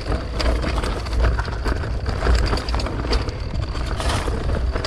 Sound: bike clattering

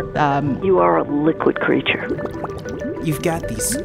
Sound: bubbles

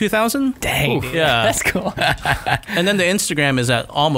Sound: laughter

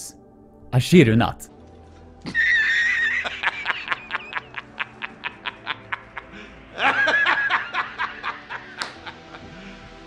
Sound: intense laughter

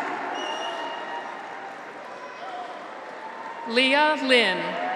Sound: audience applauds; graduates cheer

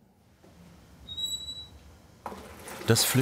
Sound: high pitched squealing

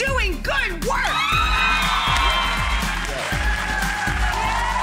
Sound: audience cheering

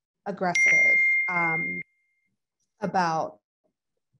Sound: device pinging

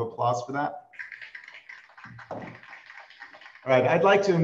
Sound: applause

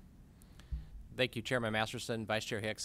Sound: executive Director speaking

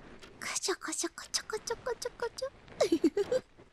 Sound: tickling

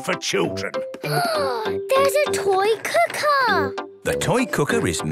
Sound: gasps

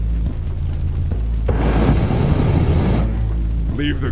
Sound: flamethrower roars

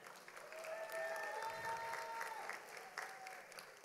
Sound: audience applauds

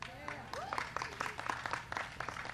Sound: applause

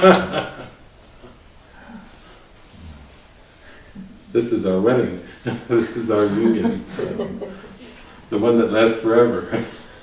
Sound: laughter

